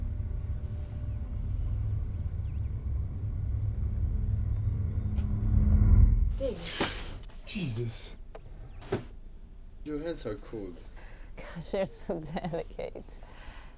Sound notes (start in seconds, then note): 0.0 soft tense music continues; 6.8 David gasps; 8.8 drawer thudding